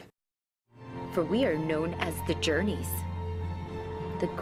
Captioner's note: voiceover